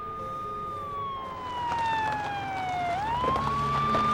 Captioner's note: siren blaring